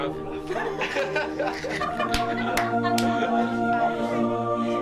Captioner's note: laughs